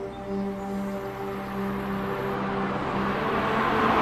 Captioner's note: car engine roaring